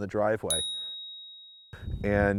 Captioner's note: chime